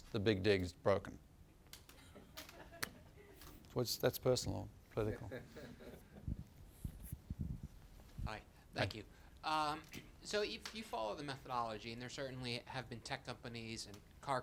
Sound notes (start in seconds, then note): 1.9 laughter